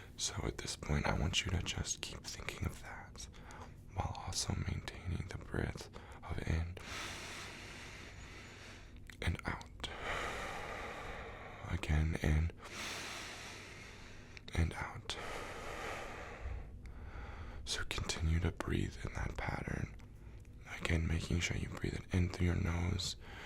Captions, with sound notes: So at this point I want you to just keep thinking of that. While also maintaining the breath of in (inhale) and out (exhale) Again, in... (inhale) And out... (exhale) So continue to breathe in that pattern. Again making sure to breath it into your nose ...